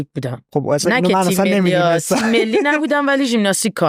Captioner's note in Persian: خنده